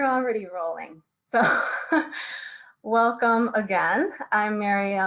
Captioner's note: chuckles